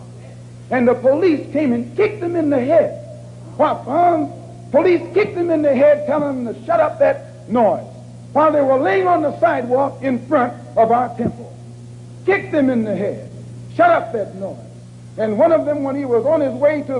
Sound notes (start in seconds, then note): none